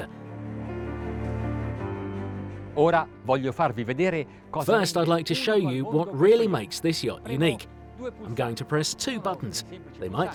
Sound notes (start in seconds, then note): 0.2 gentle music; 2.8 speaking in foreign language